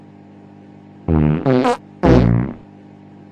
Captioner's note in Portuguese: peidos